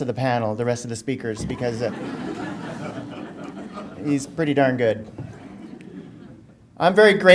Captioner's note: audience laughter